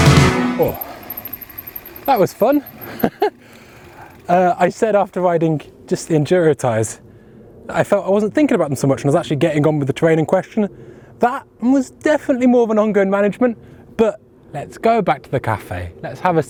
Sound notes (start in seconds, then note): 2.8 laughs